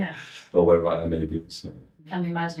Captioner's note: laughing